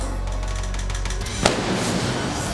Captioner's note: fireworks exploding